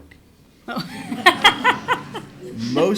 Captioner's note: laughs